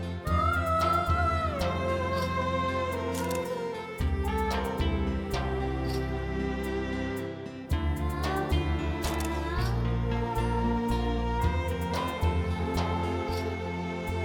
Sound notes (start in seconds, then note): 0.1 poignant vocalising; 9.0 photo clicking